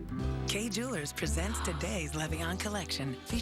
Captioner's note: gasps